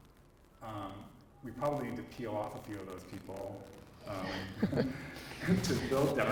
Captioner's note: laughs